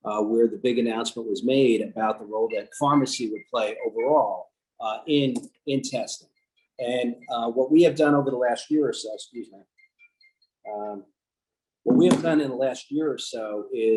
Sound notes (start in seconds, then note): 2.4 phone rings